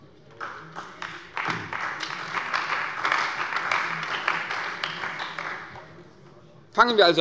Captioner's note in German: Beifall bei der CDU und dem BÜNDNIS 90/DIE GRÜNEN